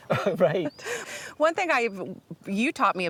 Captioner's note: laughing